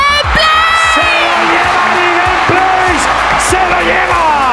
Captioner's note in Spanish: Gritos